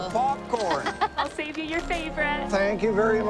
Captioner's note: Cassie laughs